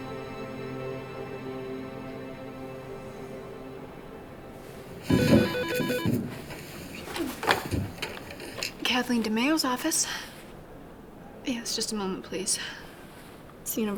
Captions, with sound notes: (phone ringing) Kathleen DeMaio's office. Yes, just a moment please.